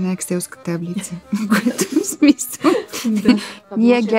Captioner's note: laughing